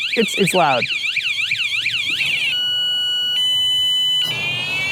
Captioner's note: blaring alarm type 1; blaring alarm type 2